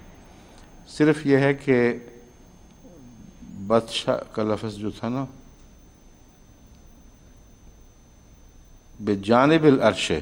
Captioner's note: Arabic